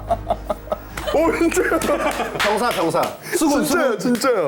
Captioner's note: claps in astonishment